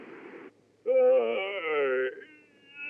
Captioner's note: yawns